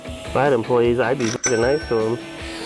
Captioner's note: ding